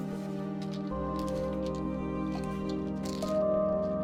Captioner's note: pills rattling